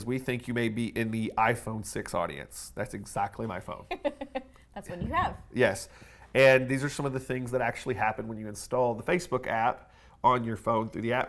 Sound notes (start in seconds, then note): 5.0 laughing